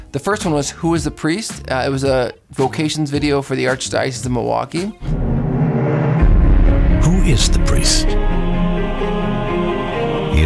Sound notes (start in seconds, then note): 5.0 dramatic music; 7.1 voiceover; 8.5 upbeat music